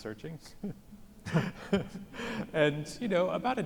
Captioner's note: laugh